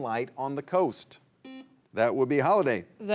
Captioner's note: buzzer buzzing